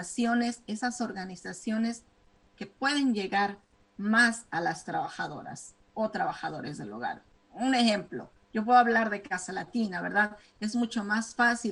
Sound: speaking spanish

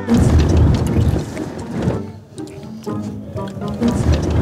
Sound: lips smooching

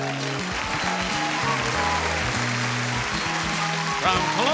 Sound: audience claps

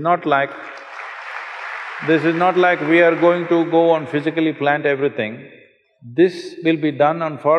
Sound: applause

